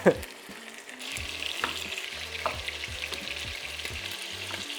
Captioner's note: chuckles; sizzling sound